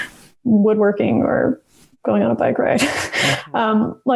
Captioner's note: laughs